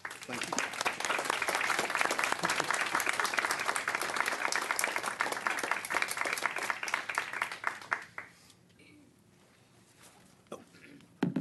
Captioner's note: applause